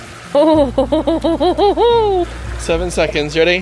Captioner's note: laughs